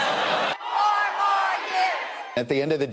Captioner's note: audience cheers